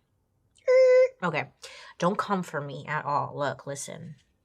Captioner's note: vocalizes